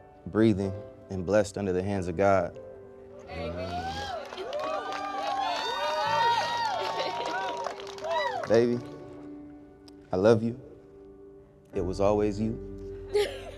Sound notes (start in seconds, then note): 3.4 guests applauding; 13.1 laughs